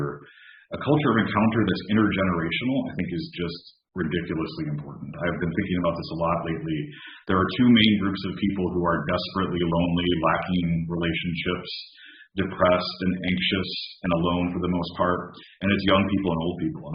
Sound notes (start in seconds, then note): 4.3 speaking in Navajo